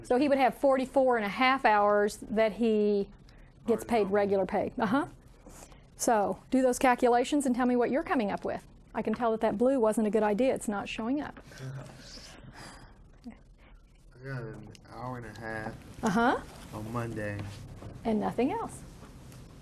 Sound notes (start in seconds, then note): 11.5 student chuckling